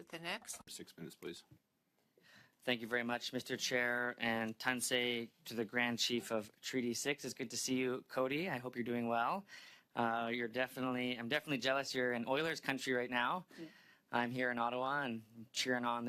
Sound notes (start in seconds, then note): 2.6 speaking French